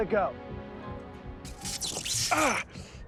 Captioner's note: electric zapping